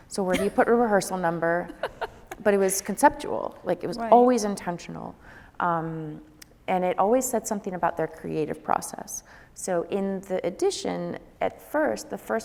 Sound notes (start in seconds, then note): 1.5 laughing